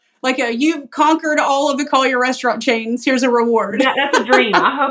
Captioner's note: laugh